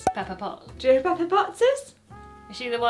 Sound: cork popping

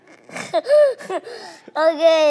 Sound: laughs

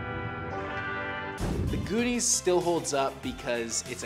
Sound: air whooshes; cheerful instrumental music

